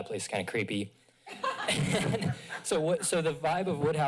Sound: laughter

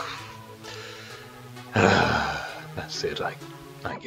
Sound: resigned sigh

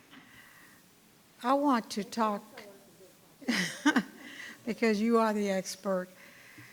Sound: chuckles

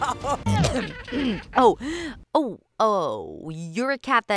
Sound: coughs

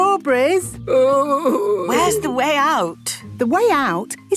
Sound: groaning

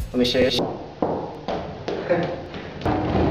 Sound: sound of balls bouncing

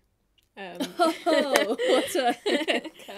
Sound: laughing

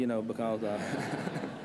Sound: laughter

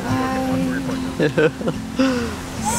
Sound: laughs

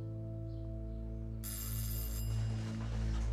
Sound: the doorbell rings

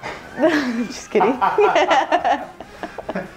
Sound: laughing

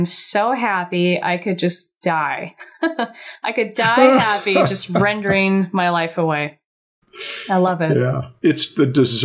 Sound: chuckles

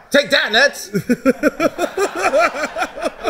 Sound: laughing

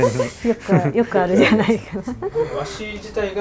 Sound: laughter

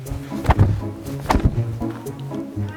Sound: flap

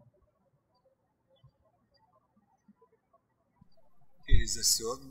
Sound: birds chirping

